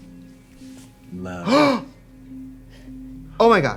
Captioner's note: Trixie gasps